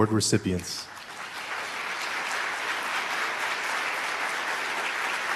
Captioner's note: applause